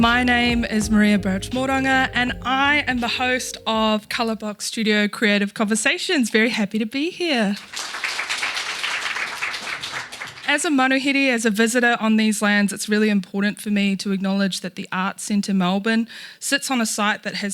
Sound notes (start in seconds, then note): 7.6 audience applauding